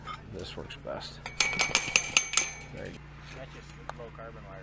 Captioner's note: metals clank